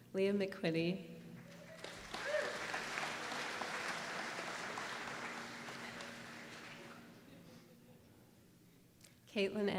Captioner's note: applause